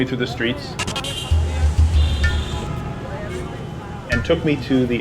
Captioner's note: all chattering; horns honking